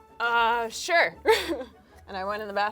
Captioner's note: laughs